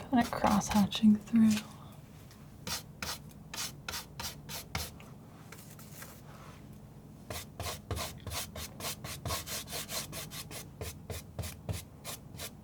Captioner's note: scratching